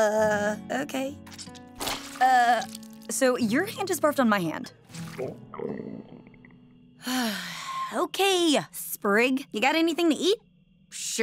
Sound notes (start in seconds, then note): 5.5 gurgling; 7.0 sighs